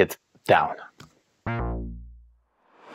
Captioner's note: descending tone; whoosh